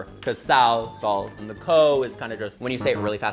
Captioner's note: none